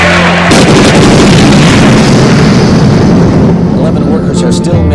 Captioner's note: explosion thunders